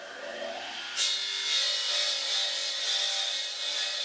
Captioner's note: machine whirring